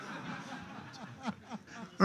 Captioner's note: laughter